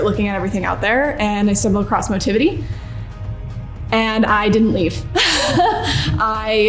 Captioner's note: laughs